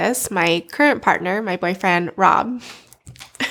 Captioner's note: laughs